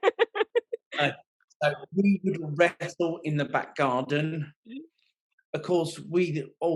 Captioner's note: laughing